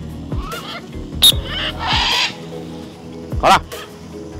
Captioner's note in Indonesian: Suara Burung; Peluit